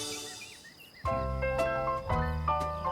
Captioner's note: birds chirping